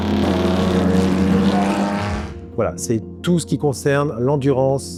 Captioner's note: engine noise